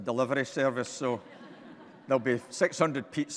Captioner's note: audience laughing